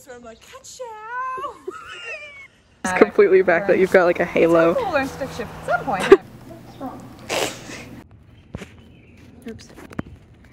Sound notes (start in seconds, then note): 1.4 breaks down laughing; 5.8 different laughter; 5.9 laughter